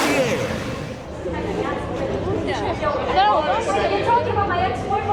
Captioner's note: people chattering in background